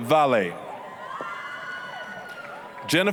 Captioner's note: applause, cheering